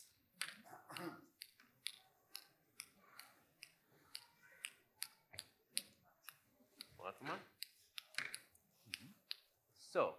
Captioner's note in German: Klicken